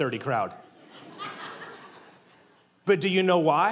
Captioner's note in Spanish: la congregación se ríe